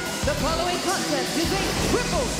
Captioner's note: bell ringing